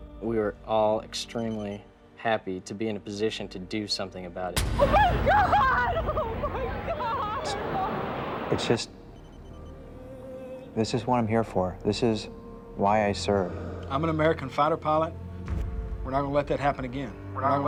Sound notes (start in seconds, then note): 4.9 crying